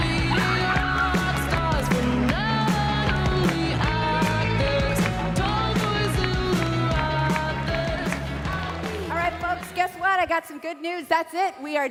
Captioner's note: applause